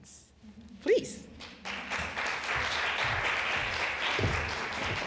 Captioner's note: applause